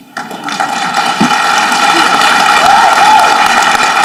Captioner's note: audience clapping